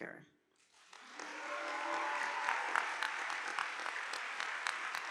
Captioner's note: audience applauding